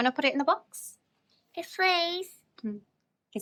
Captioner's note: child speaks in foreign language; Tess speaks in foreign language